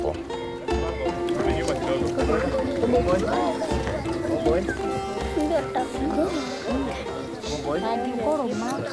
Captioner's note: chattering in foreign language